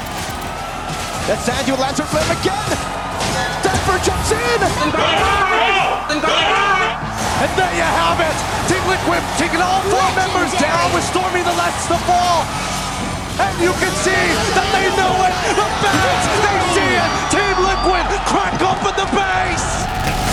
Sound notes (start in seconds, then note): 5.7 group shouting, cheering